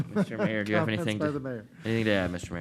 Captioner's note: chuckles